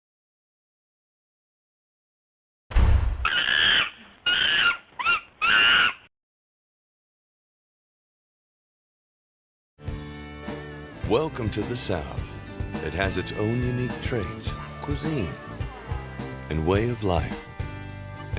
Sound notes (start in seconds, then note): 4.2 monkey squealing